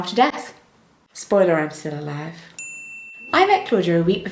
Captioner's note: bell sound